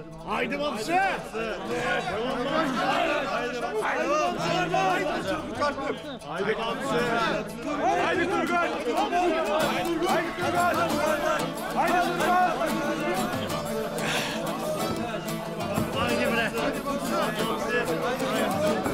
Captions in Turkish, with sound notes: Hadi Bamsı! Devam et! (Tezahürat sesleri) (Müzik - Neşeli) Hadi Turgut! (Tezahürat sesleri) (Müzik - Neşeli)